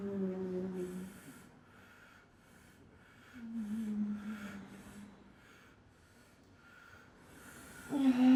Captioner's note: moaning